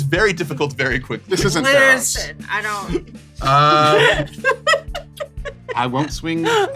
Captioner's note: laughs